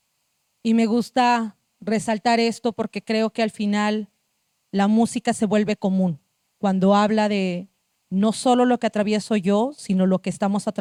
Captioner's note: speaking Zapotec language